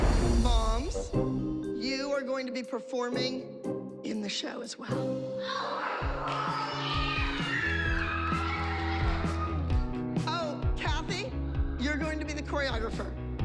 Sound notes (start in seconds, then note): 5.5 cheering